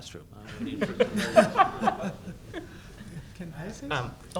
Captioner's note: laughter